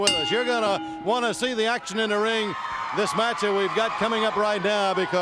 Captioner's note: bell ringing